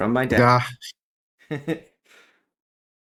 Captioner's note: laugh